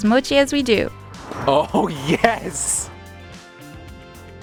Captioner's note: air whooshing; chuckling; upbeat music continues